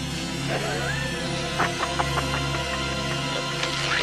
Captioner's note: haunting music; evil laughing